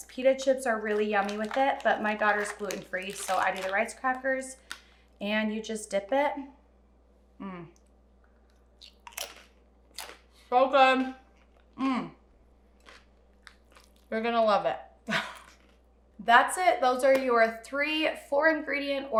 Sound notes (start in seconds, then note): 8.4 rice crackers crunching; 15.1 laughing